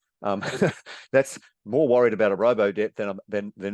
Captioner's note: chuckles